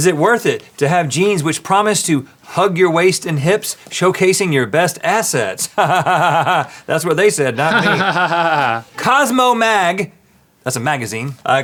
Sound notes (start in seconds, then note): 7.5 laughs